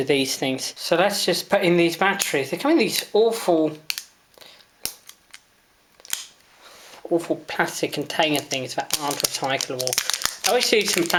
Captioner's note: crinckles as batteries are removed from plastic mold